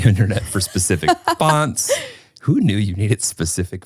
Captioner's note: laughing